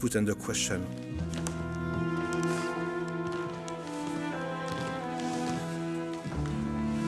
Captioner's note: somber music; floor creaking